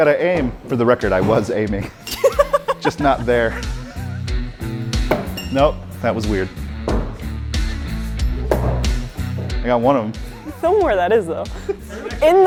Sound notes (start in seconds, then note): 5.0 star thudding; 8.3 star thudding